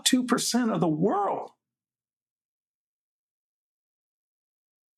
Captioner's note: silence